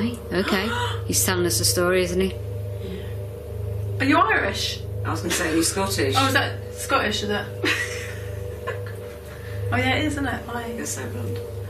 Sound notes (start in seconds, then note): 8.1 laughing